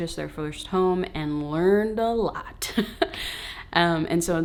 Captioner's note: laughing